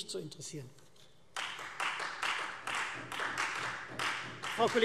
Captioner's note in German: Beifall Freie Demokraten